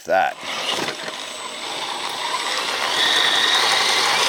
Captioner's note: tires whirring